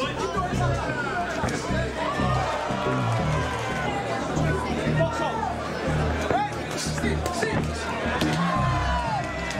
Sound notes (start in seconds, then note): 1.9 crowd cheering and clapping; 8.6 crowd cheering